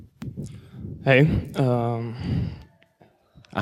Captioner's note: voiceover